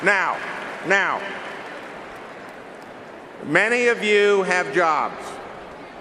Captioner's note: cheering and applause